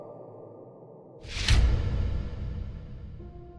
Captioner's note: sound FX